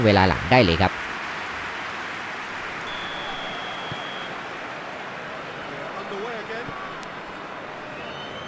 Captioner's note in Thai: ปรบมือ